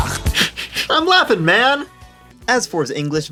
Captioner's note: laughs quietly